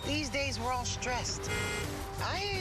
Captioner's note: horn honking